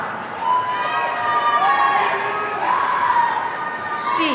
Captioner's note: audience cheering